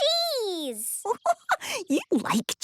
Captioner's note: giggling